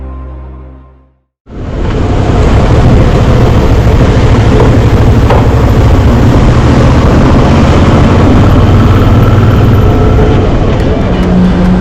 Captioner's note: motorbike engine